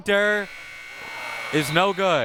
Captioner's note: buzzer buzzing